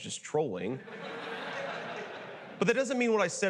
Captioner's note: theater audience laughing